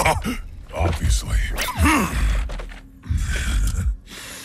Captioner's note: grunts